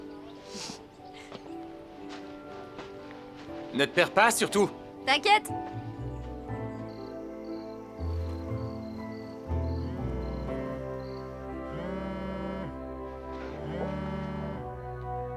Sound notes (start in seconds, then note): 7.4 crickets chirping; 11.7 phone vibrating